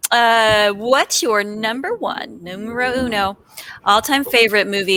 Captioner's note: speaks foreign language